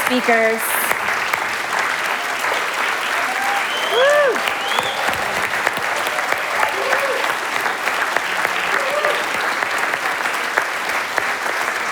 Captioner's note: applause and Cheers